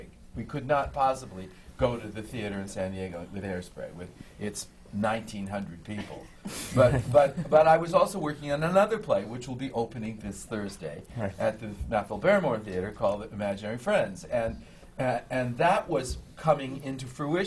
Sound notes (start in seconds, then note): 6.7 laughter from the panel